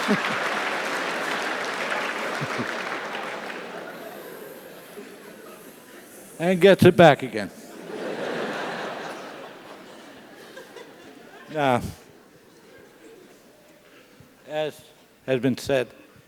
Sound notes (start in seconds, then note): 0.0 laugh; 0.0 applause; 7.8 laugh